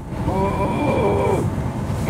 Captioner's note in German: er stöhnt